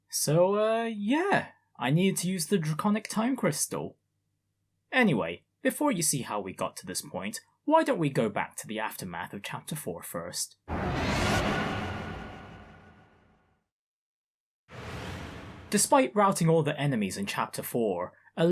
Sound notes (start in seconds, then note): 10.7 woosh!